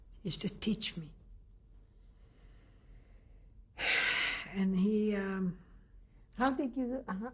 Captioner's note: pauses for 3 seconds